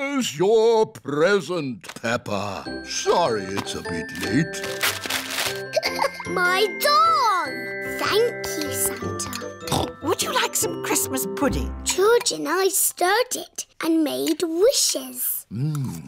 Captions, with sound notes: Here's your present, Peppa. Sorry it's a bit late. (LAUGHS) My doll! Thank you, Santa. (SNORTS) Would you like some Christmas pudding? George and I stirred it and made wishes.